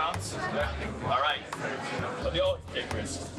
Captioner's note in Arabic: يتحدث بهدوء